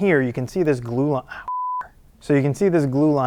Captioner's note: beep